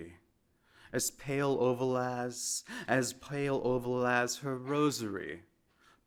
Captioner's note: speaking in foreign languauge